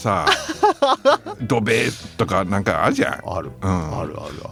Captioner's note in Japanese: 笑い